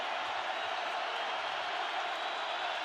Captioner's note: crowd cheering